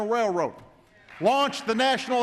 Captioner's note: applause